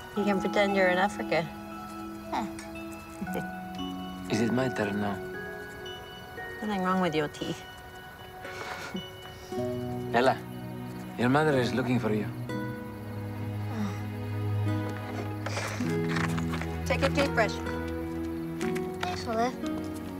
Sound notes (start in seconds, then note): 3.1 chuckles; 8.6 laughs; 10.1 speaking in Greek; 13.3 groans